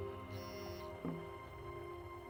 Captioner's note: camera beeps